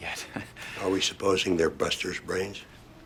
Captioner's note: chuckles